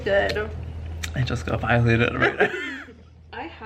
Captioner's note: laughs